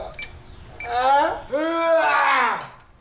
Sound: screams

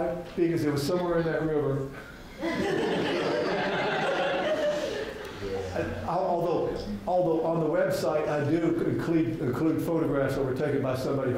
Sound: laughter from audience

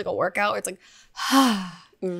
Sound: sighs

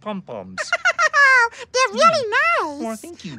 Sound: laughing

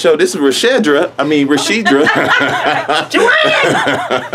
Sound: laughing

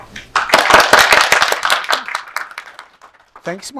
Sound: audience applauds

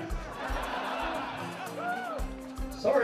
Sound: audience laughing

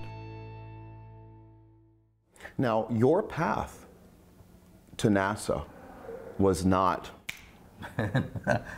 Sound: snaps

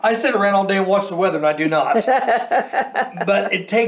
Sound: laughs loudly

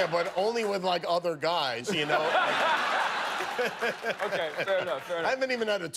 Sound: laughter

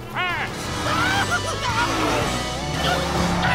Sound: shouting

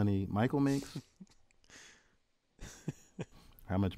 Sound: laugh

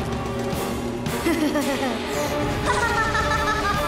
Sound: laughter

